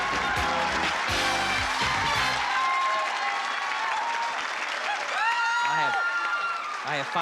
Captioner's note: applause